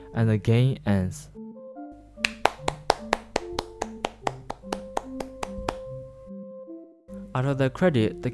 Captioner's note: clapclapclapclap